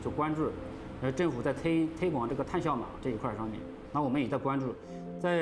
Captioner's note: speaking Chinese